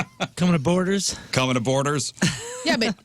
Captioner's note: laughing